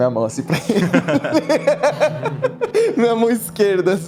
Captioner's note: laugh